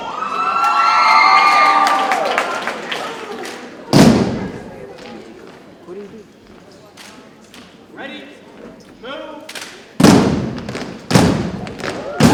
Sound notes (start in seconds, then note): 0.0 audience cheering and applauding; 4.1 rhythmic thumping continues; 10.0 rhythmic thumping continues